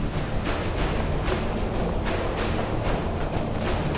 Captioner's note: running Footsteps